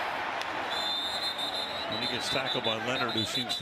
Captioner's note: whistle